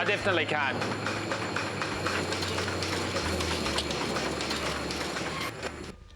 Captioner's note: loud clacking of machinery